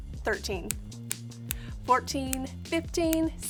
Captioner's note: snapping; snaps; snapping